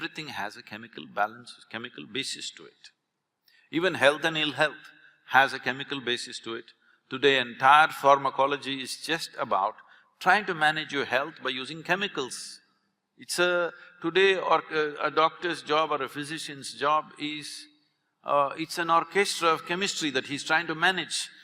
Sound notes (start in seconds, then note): none